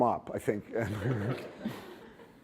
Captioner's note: laughter